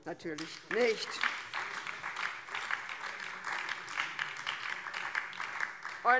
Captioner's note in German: Beifall BÜNDNIS 90/DIE GRÜNEN